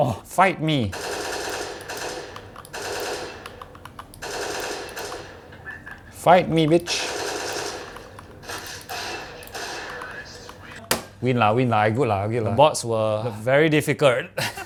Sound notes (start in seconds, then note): 10.9 smacks mouse